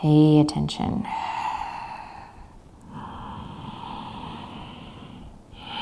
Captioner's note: inhaling and exhaling deeply